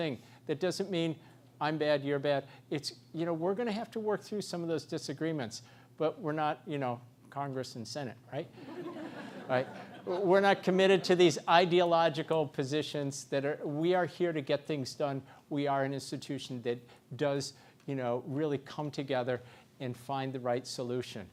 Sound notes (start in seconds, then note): 8.6 laugh